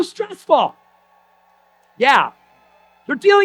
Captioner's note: audience applause